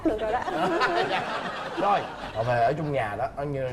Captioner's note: laughing